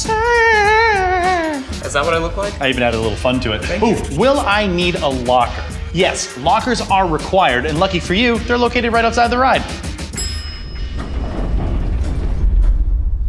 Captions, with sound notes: - Ah! - Is that what I look like? - I even added a little fun to it. - Thank you. - Ooh, will I need a locker? Yes. Lockers are required, and lucky for you, they're located right outside the ride. (bell dings)